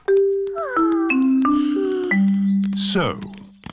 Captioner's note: peppa and george sigh